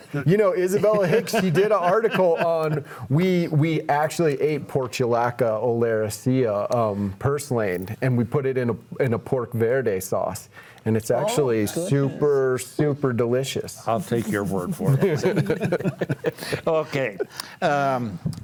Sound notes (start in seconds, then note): 14.0 panelists laughing